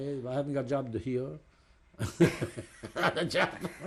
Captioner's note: laughs